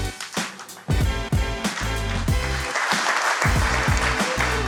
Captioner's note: applause